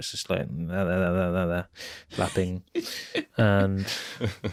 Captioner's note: chuckling